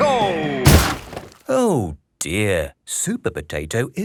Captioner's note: crashes